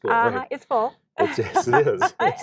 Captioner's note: laughing